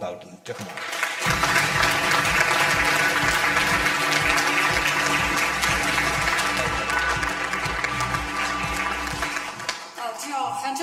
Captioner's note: audience applause; upbeat music